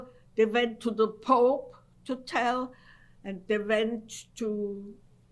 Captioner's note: none